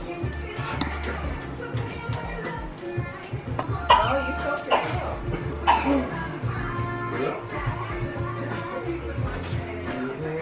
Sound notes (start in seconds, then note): 6.5 murmurs